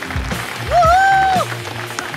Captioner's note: Cheering